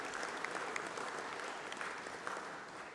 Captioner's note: applause